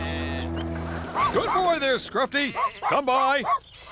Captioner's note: sheep Bleating; Scruffty Barking